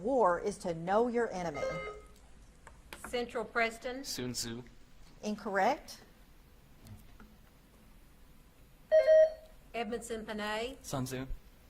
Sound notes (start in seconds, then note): 1.5 buzzer beeps; 8.9 buzzer beeps